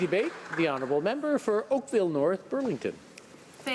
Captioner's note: applause